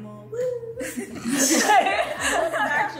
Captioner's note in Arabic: الكل يضحك